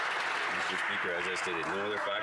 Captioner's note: some Applause